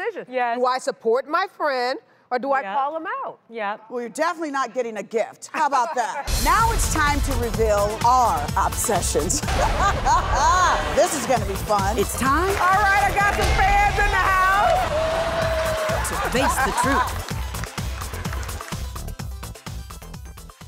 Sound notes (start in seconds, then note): 9.3 laughter; 9.6 record scratch; 17.3 upbeat techno music